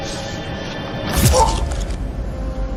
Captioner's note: dramatic music playing; groans in pain